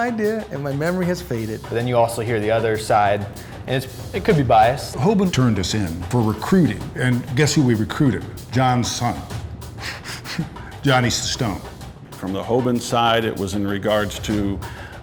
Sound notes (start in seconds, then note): 9.9 laughing